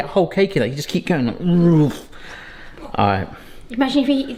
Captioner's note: whooshing noise